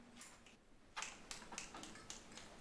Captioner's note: snapping fingers